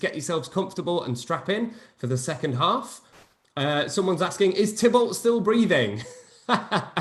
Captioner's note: laughs